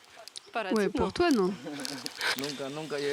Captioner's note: laughs